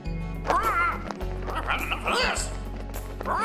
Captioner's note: צווחה